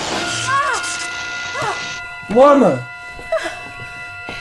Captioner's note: lana screams